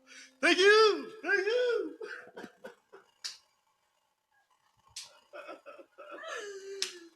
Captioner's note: laughing; cheering; high fives and cheering